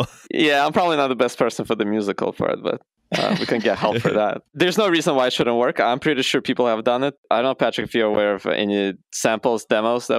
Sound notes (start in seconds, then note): 3.1 laughter